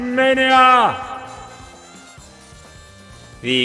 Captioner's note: echoes and reverberates against a wahwah